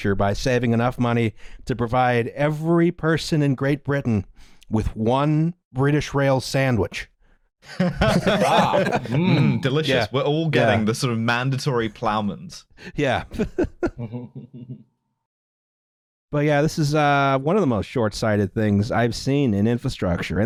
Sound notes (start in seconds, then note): 7.7 laughter; 13.4 chuckles; 13.8 laughs